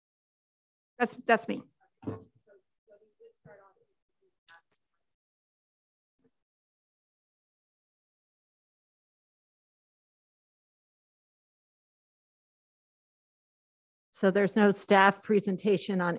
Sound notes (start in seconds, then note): 3.4 woman speaking quietly off mic